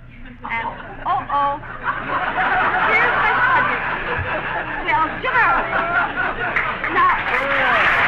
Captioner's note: laughter; clapping